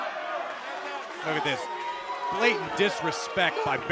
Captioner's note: crowd cheering